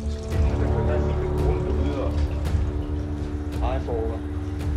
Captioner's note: speaks in Danish